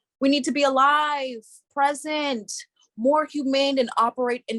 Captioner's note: none